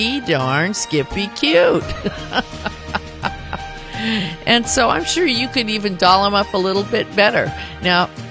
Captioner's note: laughter